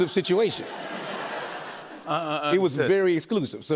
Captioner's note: laughter